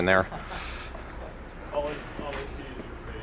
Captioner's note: laughs